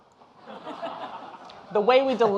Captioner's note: audience laughing